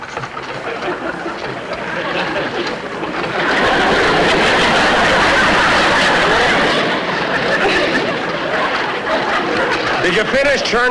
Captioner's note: apparatus Creaking; audience Laughing